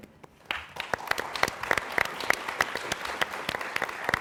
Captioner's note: applause